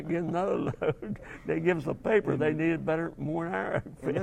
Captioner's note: laugh